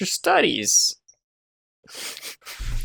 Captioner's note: chuckles